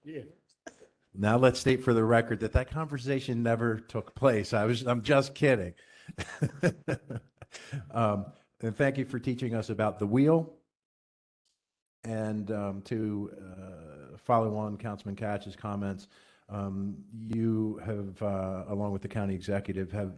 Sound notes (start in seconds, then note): 6.1 laughter